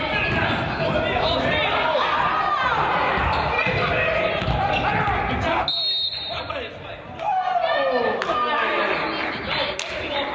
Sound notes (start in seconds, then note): 1.0 crowd yells; 1.5 whistle blows; 7.2 crowd cries